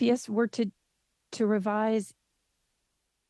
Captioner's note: speaking French